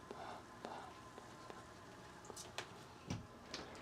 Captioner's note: hums